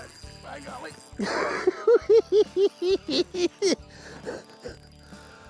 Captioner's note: laughs